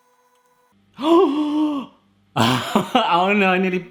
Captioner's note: he gasps; he laughs